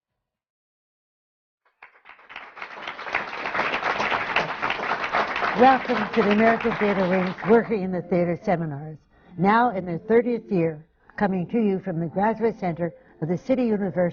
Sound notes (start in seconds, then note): 1.7 applause